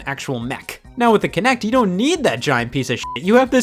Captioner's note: beep